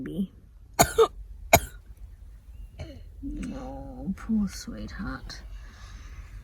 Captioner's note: coughs